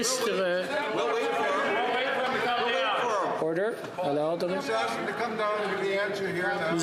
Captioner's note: speaking French